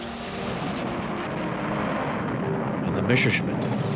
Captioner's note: rocket engines roaring